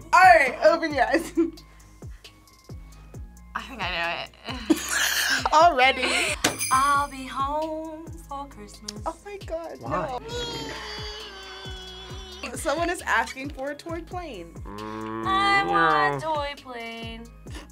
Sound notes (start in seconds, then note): 2.9 laughs; 4.4 both laugh; 6.1 bells jingling; 10.3 mimics plane engine